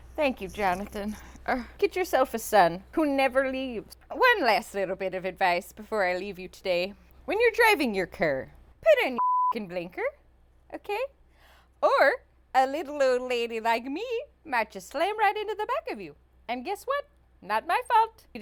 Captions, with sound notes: Thank you, Jonathan. Get yourself a son who never leaves. One last little bit of advice before I leave you today. When you're driving your car, put on your (beep) blinker, okay? Or a little old lady like me might just slam right into the back of you. And guess what? Not my fault.